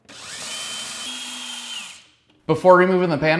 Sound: tool whirring

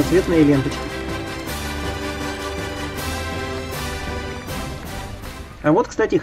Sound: fanfare, applause

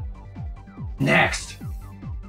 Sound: gross, mocking voice

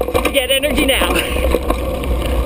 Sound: laughing

